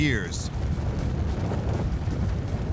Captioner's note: deep rumble